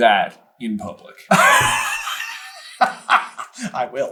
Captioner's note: cracks up